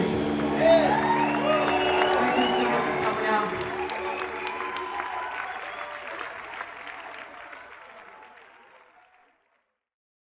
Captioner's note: applause